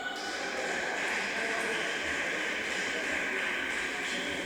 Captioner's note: applause